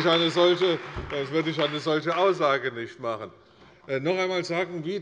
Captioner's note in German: Beifall bei der CDU